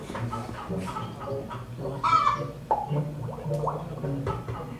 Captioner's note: chicken squawks; liquid bubbles